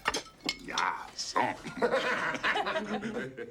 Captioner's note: laughter